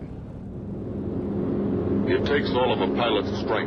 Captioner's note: plane engine roars